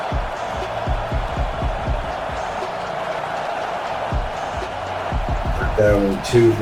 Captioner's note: crowd Noises